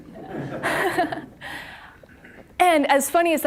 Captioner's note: audience laughing